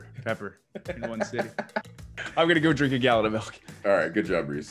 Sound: laugh

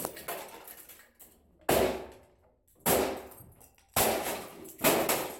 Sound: whacking; thud

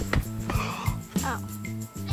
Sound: gasping

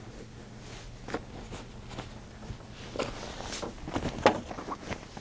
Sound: sheets rustling

